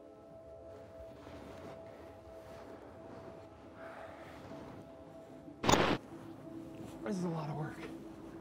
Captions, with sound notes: (gentle music) (camera whirring) - This is a lot of work.